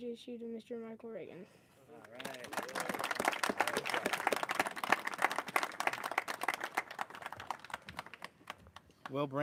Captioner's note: applause